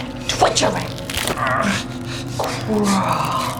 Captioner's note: man grunts